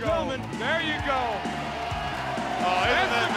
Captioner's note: crowd cheering